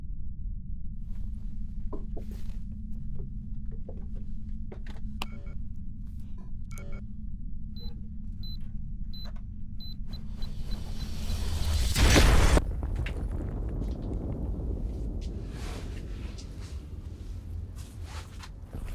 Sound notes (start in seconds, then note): 6.6 beeping; 12.0 exploding